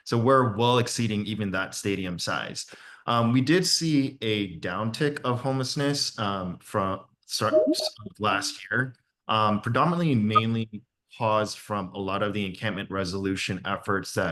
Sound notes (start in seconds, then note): 7.4 faintly speaking; 7.4 notification dings